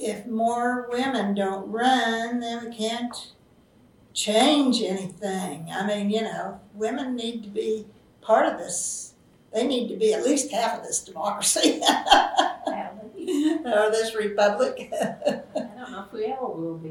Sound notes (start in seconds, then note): 11.3 laughs